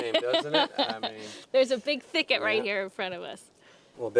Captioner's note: laughs